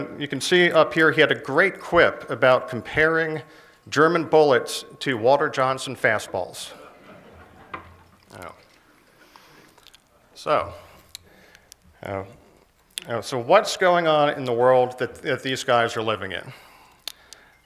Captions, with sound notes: You can see up here he had a great quip about comparing German bullets to Walter Johnson fastballs. (laughter) So what's going on in the world that these guys are living in?